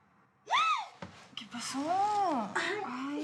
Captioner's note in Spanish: grito